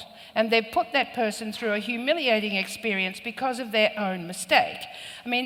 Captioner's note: none